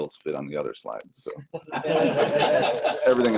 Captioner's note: laughter